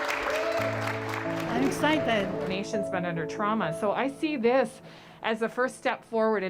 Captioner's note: applause